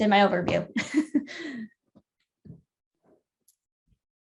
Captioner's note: giggles